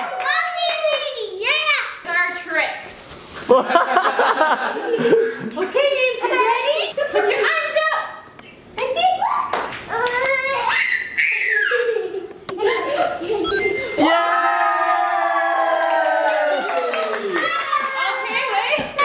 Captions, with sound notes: Mommy and Navy, you're up. - Here's our trick. Okay Navs, you ready? Put your arms up like this. (baby laughing) (crowd cheering) Okay wait.